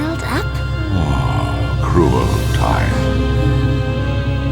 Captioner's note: sigh